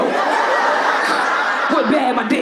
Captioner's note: audience laughing